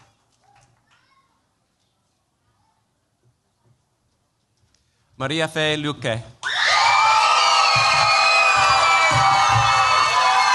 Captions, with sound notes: Maria Fe Luque. [CHEERS, APPLAUSE]